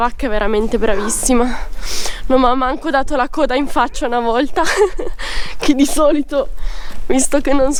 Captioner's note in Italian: risate